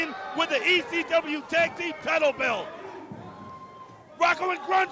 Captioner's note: crowd chatter